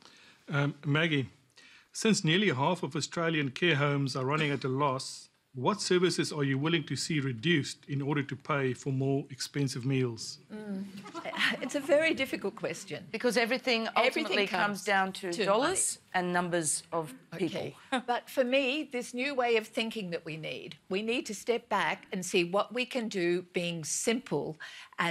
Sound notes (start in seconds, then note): 10.9 chuckling